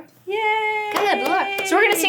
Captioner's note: clapping